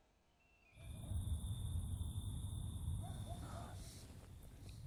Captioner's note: crickets chirping